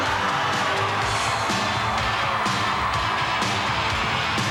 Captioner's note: crowd cheering